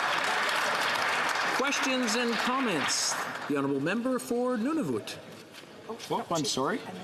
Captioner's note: some Applause